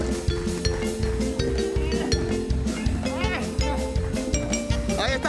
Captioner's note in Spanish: Aplausos